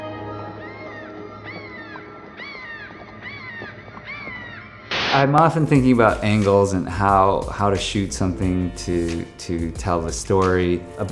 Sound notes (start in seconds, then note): 0.4 birds squawking